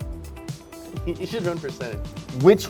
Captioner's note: giggles